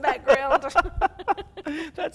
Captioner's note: both laugh